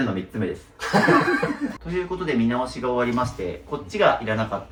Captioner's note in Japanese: 笑い